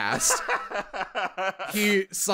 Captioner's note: laughter